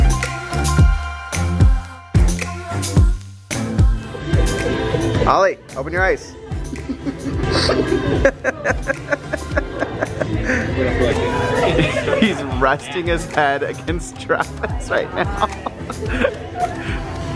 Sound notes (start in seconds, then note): 6.6 laughing